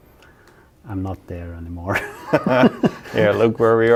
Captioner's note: both laughing